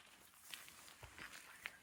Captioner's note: leaves rustling